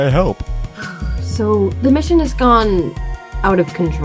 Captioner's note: sigh